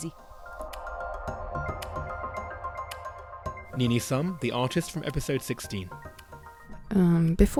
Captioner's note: voiceover